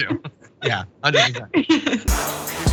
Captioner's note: laugh